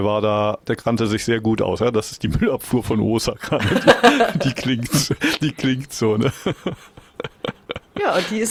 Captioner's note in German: gelächter